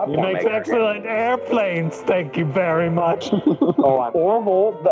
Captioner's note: giggles